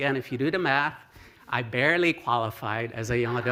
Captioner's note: laughter